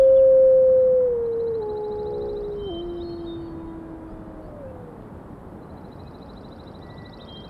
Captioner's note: wolf howls